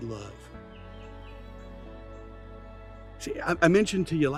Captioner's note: birds continue chirping; gentle music continues